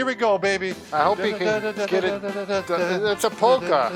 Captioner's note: humming